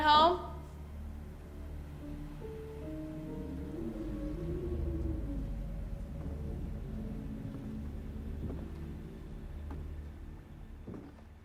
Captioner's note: soft music; wind whooshing